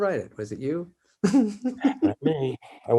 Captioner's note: David chuckles